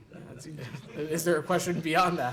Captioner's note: laughter